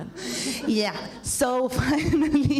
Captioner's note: laughs